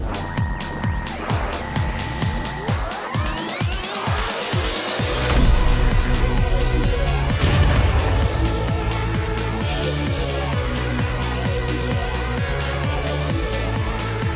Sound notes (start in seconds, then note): 2.1 music tempo increases; 5.2 title thumps; 7.5 explosion booms; 10.3 upbeat synth music continues